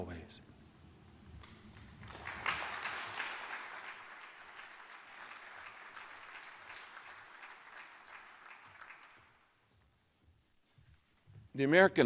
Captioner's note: applause